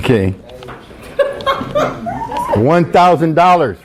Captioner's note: girl laughing